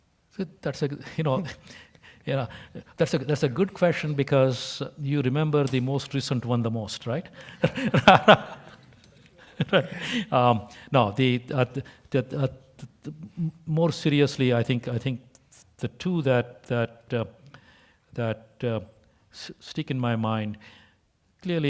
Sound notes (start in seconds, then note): 2.0 laugh; 7.4 laugh